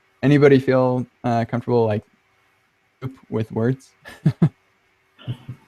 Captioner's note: laughs